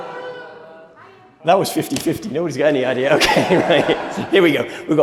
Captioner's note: laughter